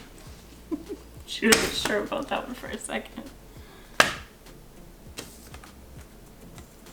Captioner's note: chuckles